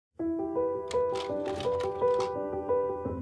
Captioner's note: projector clicks